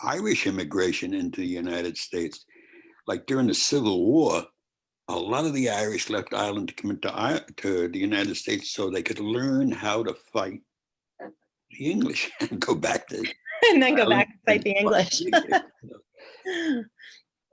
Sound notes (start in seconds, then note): 12.1 chuckle